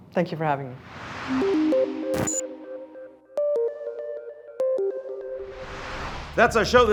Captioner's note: screen whooshes; curious music